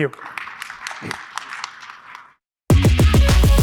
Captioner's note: applause